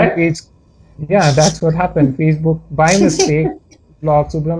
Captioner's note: snorts